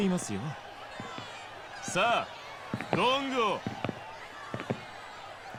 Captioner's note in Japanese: 大歓声